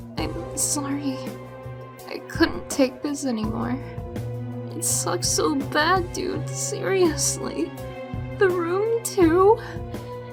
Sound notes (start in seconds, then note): none